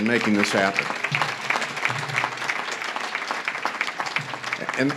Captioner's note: audience claps